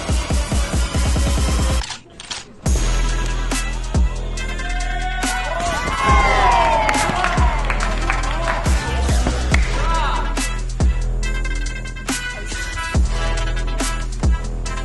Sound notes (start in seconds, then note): 6.1 cheering; 6.7 applause